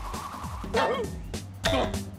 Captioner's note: whimpers